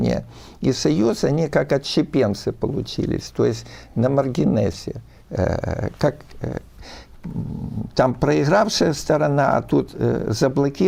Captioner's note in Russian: фыркает